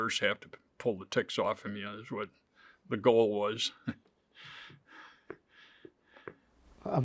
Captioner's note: chuckles